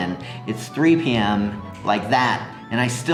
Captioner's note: snapping fingers